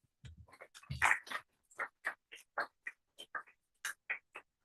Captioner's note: applause